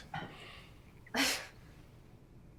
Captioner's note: sighs